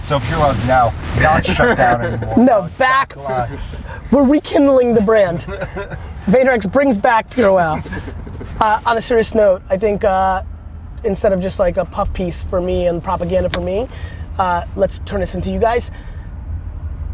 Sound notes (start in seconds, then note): 7.4 laughs